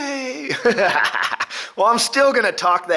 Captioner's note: laughs